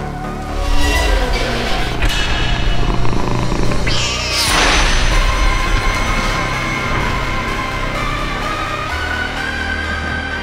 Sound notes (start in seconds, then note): 0.8 door clanging; 3.7 cat yowling